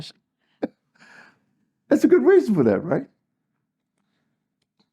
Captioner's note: laugh